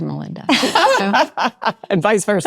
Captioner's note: Melinda laughing